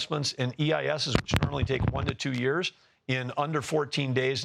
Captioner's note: line noise interference